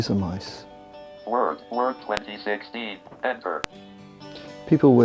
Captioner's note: screen Reader talking